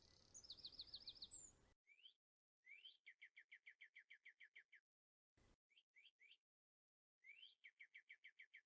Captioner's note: bird singing